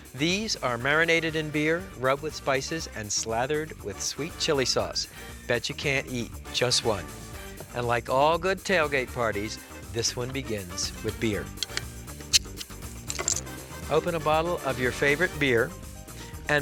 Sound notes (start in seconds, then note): 13.0 cap clinking